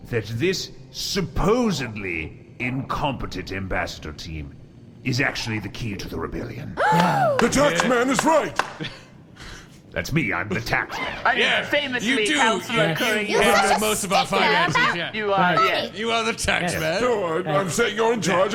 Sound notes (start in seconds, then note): 6.8 Kassu gasps